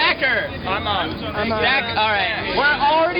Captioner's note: voiceover